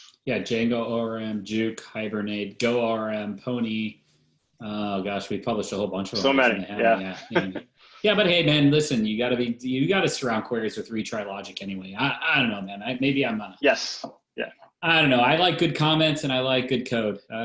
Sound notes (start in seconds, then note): 6.1 laughs